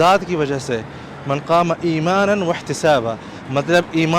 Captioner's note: Arabic